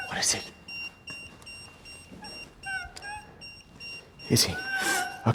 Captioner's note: EMF beeping continues